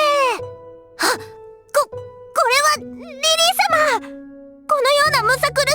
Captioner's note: gasp